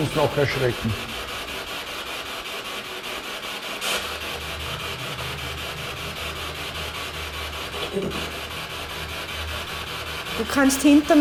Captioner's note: radio noise from the spirit box